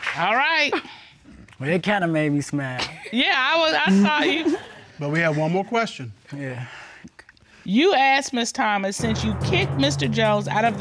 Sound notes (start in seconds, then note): 6.7 sighs